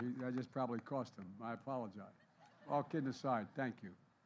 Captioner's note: applause